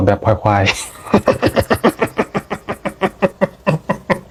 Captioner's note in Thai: เสียงหัวเราะ